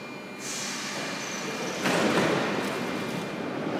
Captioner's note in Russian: закрытие дверей